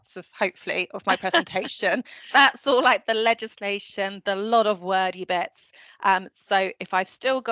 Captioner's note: laughter